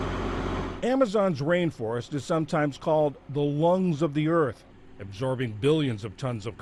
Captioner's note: voice-over